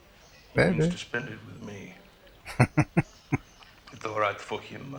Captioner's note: chuckling